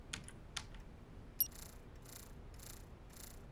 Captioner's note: beeping